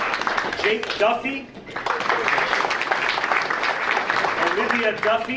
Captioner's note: audience applauding